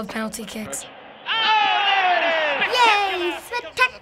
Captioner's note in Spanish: comentaristas deportivos se vuelven locos